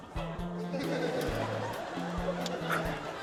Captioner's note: laughter